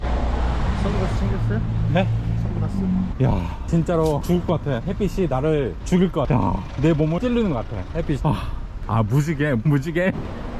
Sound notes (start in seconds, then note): 3.1 sighing; 6.3 sighing; 8.2 sighing